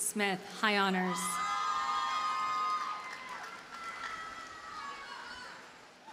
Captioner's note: audience cheers and applauds